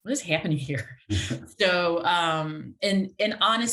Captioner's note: laughs